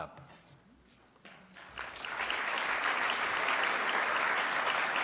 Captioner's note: audience applauds